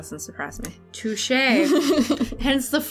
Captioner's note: laughter